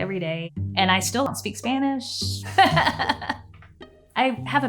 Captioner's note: chuckling